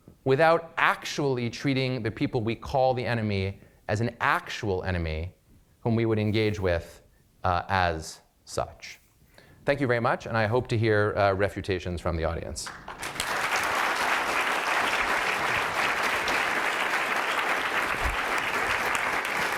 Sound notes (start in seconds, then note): 12.6 applause